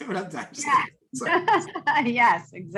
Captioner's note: laughs